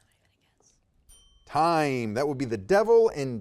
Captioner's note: timer dings